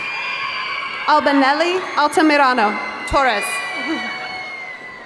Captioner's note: chuckles